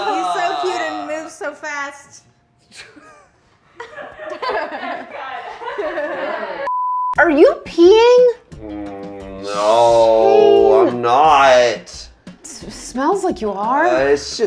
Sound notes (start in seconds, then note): 3.7 laughing; 4.1 crew laughing, shouting indistinctly; 6.6 beep